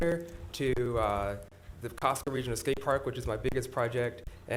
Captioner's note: audio crackling